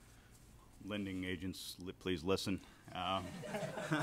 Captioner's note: audience laughter